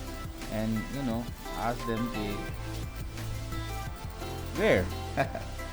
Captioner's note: laughs!